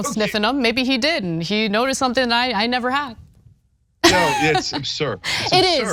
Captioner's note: laugh